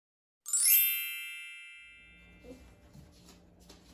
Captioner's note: chime